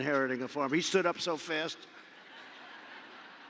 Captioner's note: laughter